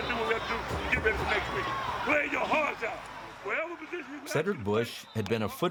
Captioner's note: shouting and cheering